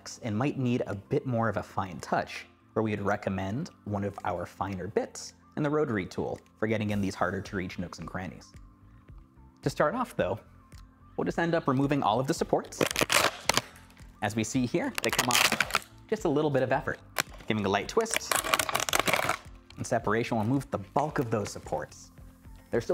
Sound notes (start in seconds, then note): 12.7 plastic rips